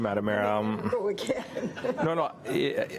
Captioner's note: laughs